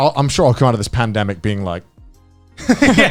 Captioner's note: laughing